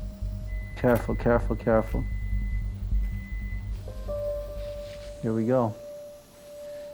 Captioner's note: device beeping